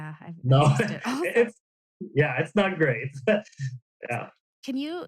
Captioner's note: laughs